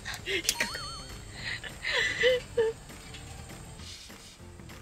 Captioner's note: laughs